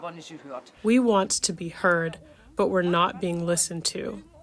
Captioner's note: through translator